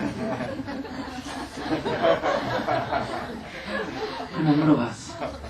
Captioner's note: audience laughter